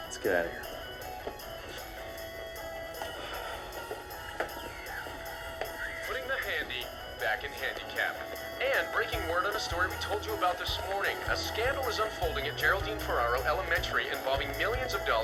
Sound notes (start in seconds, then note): 6.8 radio